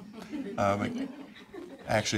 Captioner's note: audience chuckling